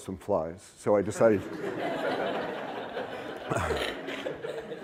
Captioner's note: laughter